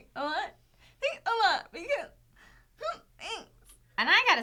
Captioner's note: whining